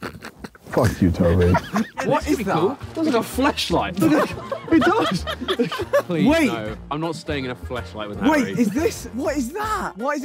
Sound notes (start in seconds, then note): 3.9 laughing